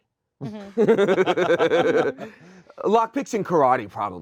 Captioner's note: chuckle